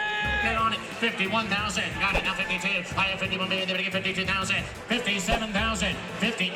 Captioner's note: auctioneer chant